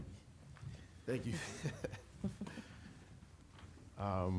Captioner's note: laughs